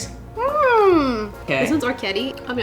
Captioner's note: humming curiously